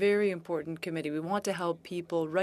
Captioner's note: speaking in French